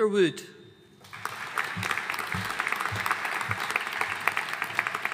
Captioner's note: audience applauding